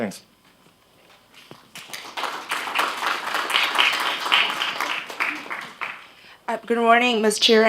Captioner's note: applause